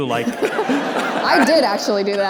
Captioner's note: audience laughter